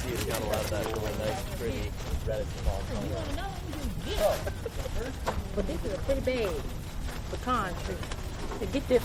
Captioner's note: audience speaking